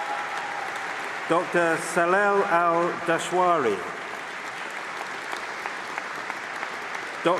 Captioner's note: applause